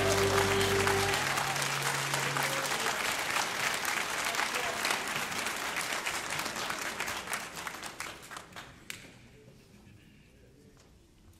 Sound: applause

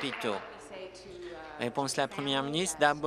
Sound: applause

